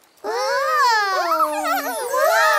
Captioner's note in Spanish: Risas